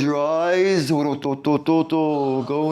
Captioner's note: non-english speech